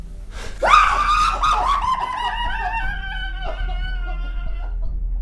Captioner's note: screaming and bizarre laughing; coughing within house